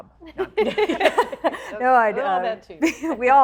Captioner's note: all laughing